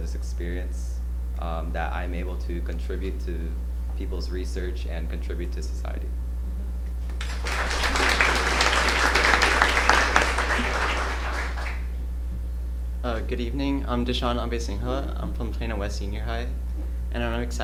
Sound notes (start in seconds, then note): 10.8 applause